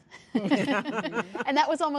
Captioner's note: laughing